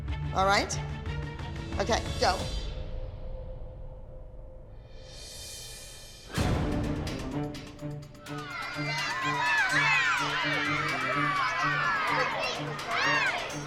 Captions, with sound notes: Alright? Okay. Go. ( cheering )